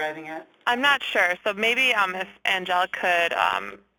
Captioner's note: voiceover